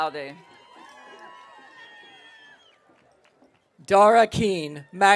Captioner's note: audience cheering